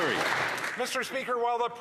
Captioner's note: applause